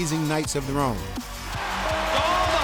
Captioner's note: crowd cheering